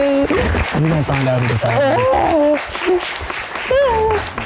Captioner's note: audience applauding; sobbing